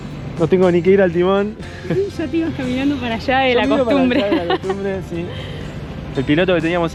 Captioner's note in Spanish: risas